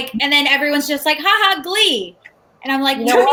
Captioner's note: laughs mockingly